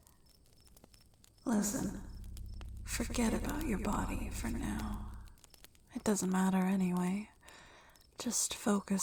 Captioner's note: echoing